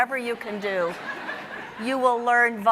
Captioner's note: audience laughing